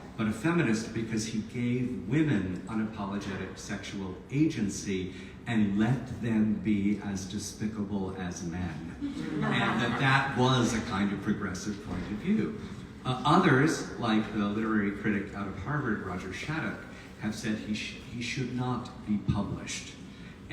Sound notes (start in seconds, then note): 9.0 audience laughs